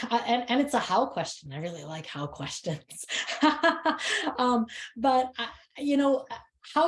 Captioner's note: laughs